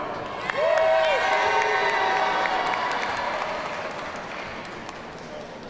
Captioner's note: audience cheers and applauds